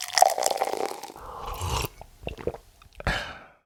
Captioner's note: coffee pours; drinker sips coffee